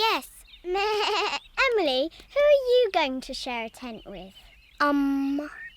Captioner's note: bleats